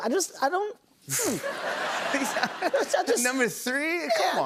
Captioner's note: laughter